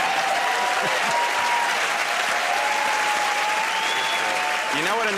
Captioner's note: cheers and applause